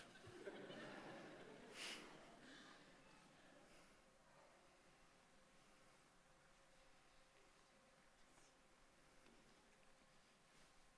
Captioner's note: laughter